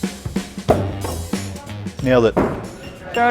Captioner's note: star thudding